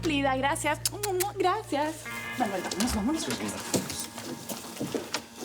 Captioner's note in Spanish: Sonido al tirar besos